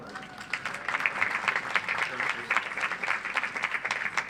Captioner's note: audience applauds